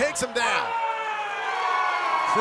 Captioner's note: cheers and applause